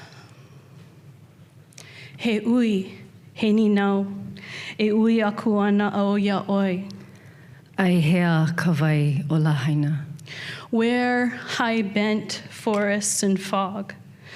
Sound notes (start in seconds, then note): 2.1 speaking Hawaiian